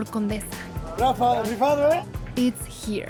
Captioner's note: speaks Spanish